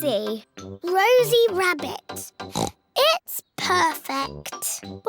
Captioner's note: oinks